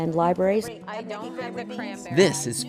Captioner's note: chatting